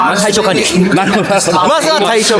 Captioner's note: laughs